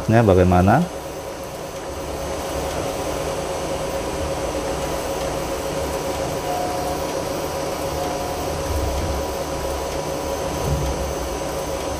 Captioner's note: printer machine noise